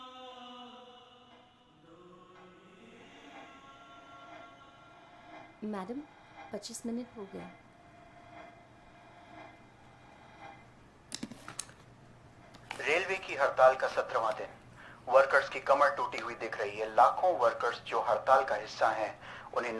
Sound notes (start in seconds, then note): 9.9 radio